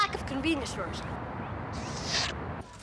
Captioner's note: slurps